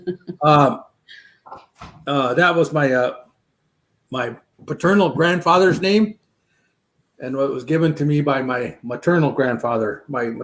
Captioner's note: laughter